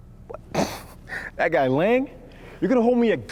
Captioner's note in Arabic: يسخر